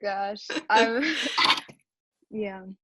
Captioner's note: chuckling